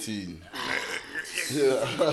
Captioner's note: everybody laughs